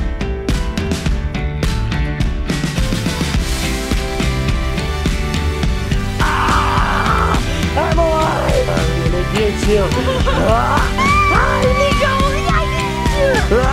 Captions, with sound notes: - (screaming) I'm alive! I'm gonna get you. (screaming) Ah, Niko, I got you!